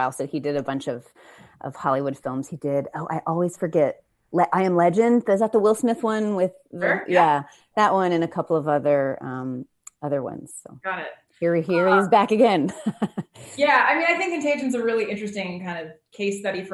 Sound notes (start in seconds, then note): 12.6 chuckles